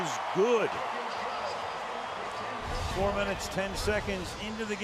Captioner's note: crowd cheering